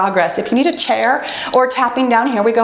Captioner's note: timer beeps